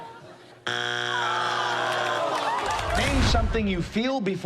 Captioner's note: all groan